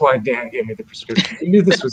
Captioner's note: laughter